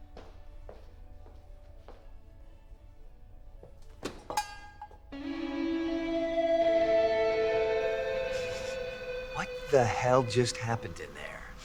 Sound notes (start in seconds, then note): 3.7 door Bell Chimes